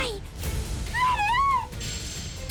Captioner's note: yells